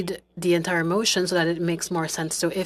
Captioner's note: speaking French